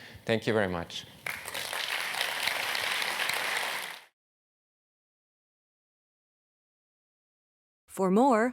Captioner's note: applause